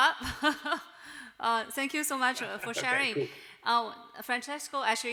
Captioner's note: chuckles